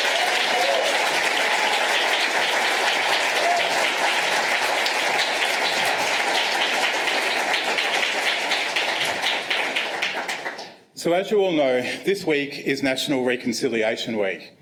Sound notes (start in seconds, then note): 2.6 applause